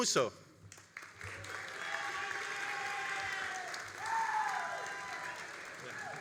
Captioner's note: all applauding and cheering